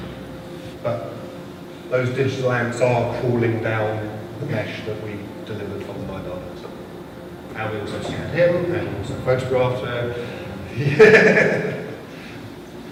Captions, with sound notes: Not my work. But those digital ants are crawling down the mesh that we delivered from lidar. And we also suited him, and we also photographed her ... [LAUGHTER]